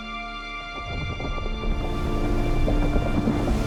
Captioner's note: rocks rumbling and water splashes